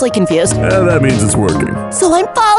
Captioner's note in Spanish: Voz seductora